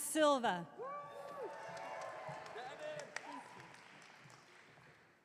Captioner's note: audience clapping